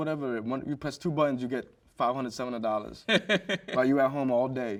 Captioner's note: host chuckles